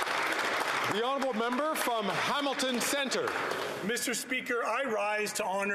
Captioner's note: some Applause